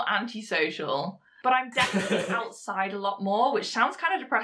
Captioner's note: host laughs